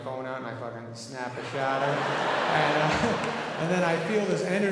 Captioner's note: audience laughing